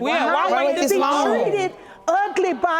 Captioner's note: all clamoring